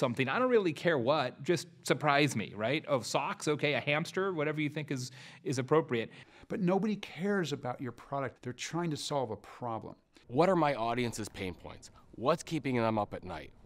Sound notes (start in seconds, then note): 10.3 voiceover